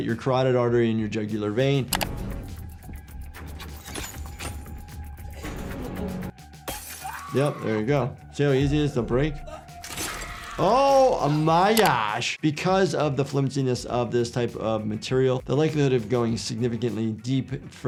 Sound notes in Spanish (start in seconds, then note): 2.6 música de suspenso; 6.6 vidrio roto; 6.9 personaje gritando; 9.8 desgarro de carne; 10.2 personaje gritando